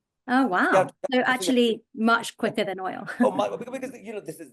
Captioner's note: chuckling